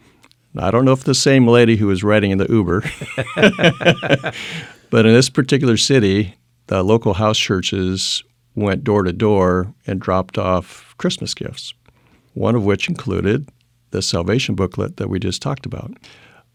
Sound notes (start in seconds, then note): 2.8 laughing